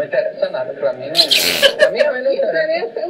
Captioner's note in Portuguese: risos